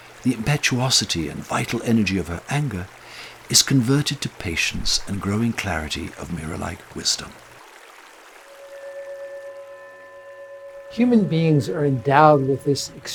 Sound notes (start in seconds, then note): 7.7 river sound fades out; 7.9 mysterious Tibetan bowls music